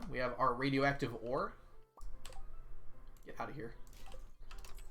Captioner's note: none